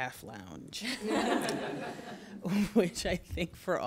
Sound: laughter

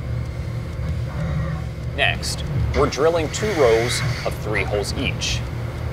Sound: machining noises

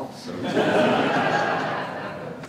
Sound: laughter

